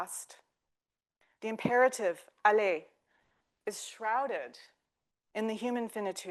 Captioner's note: speaking French